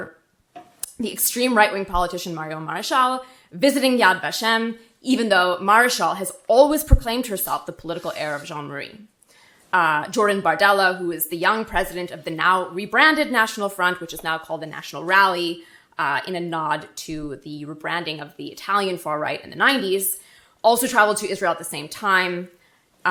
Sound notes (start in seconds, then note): none